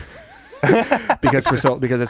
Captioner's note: laughing